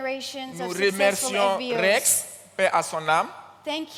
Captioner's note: continues in French